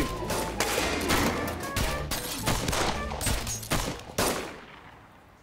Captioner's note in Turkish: Silah sesleri